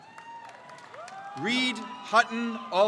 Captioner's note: crowd cheers